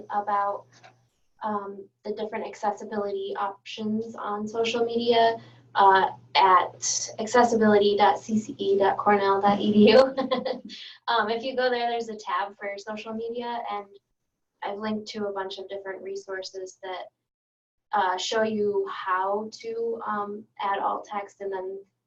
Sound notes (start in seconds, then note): 10.2 laughing